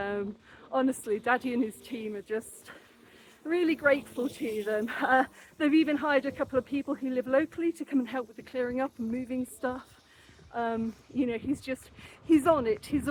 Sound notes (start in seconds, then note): none